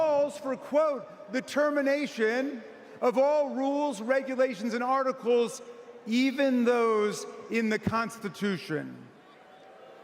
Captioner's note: crowd booing